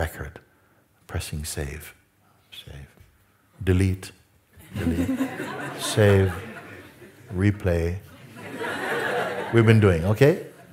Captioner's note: Lachen